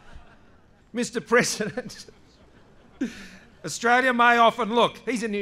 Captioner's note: laughter